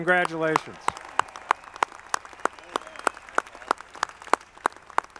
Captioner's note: audience clapping